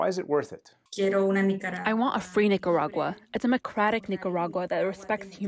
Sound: through translator

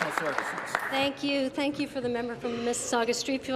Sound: applause

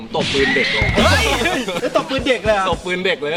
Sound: chuckles

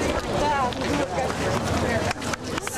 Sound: non-english; clapping

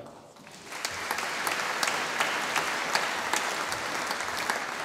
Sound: audience applauding

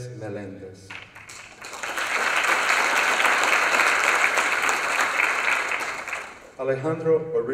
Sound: applause

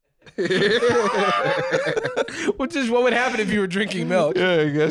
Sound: laughing

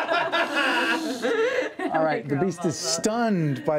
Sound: laughter

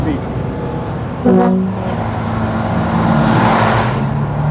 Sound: horn honks

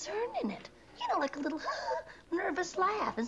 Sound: fake laugh

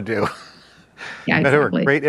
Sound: chuckles

